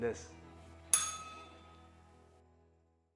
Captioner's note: bell rings